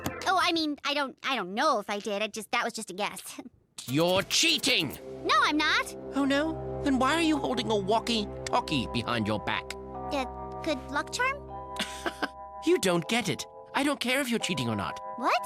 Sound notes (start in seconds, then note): 8.2 walkie-talkie; 11.8 Tobey laughs